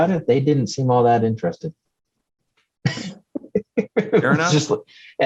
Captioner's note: laughs